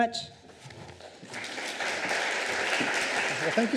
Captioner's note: applause